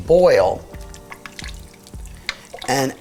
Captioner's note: mixture sloshing